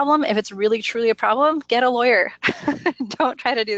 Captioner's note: laughs